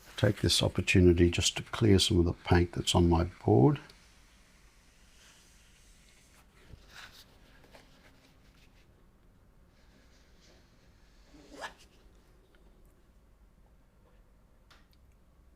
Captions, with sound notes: take this opportunity just to clear some of the paint that's on my board. [silence]